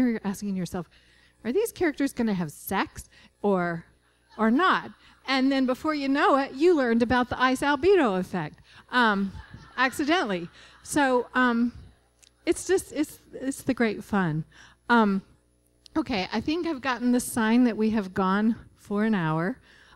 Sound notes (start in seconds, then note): 4.3 laughter; 9.0 laughter